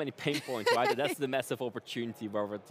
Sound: laughing

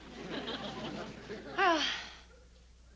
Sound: sighs

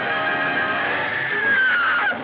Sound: screaming

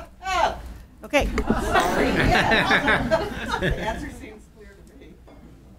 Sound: some attendees laugh

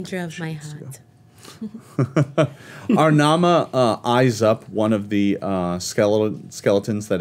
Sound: chuckles

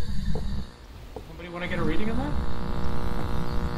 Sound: radio continues buzzing

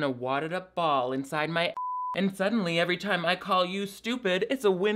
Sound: beep

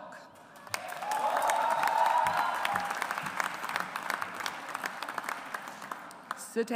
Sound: audience applauds

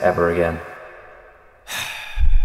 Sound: sigh

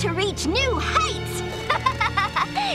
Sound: laughing

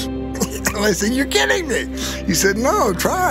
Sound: laughs

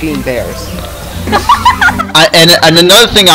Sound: dying of laughter

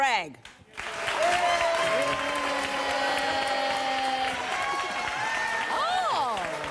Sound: audience cheers and applauds

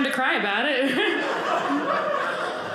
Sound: audience laughing

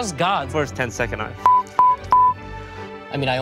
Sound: beep

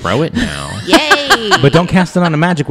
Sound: laughs

